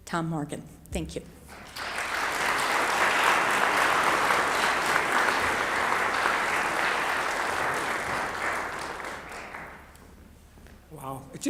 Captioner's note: applause